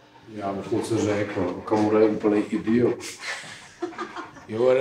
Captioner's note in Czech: smích